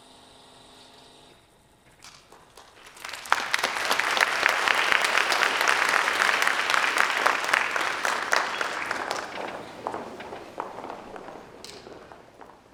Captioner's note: applause